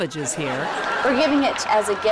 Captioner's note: audience laughs